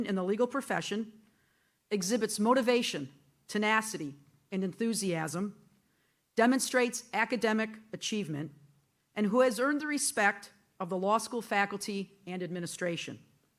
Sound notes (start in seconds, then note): none